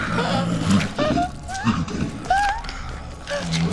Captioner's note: gasps